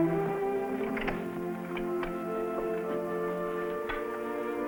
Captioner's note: door creaks